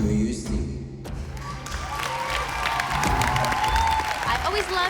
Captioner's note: cheering